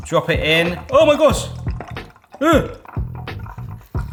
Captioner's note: gasps